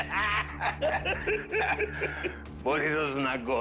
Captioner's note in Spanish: Risas